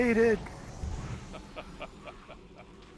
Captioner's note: laughs